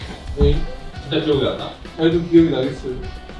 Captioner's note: sound effect of hearing something for the first time